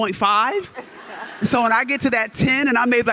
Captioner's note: audience laughs